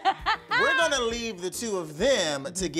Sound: Tia laughing

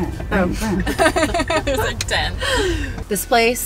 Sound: laughing

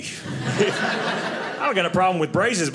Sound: audience laughing

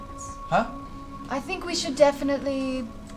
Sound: quietly

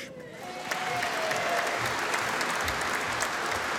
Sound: audience applauding

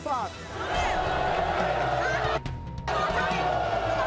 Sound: audience booing

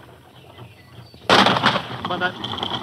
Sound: cart rattling; gun fires

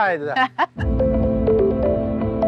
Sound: laughing; optimistic music

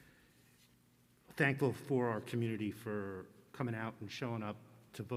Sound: none

